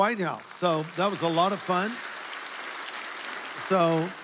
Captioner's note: applause